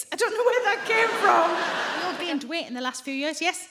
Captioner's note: audience laughing